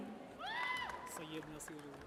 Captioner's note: audience cheers